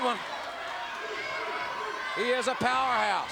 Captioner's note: crowd cheers